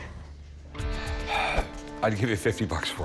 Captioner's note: sighs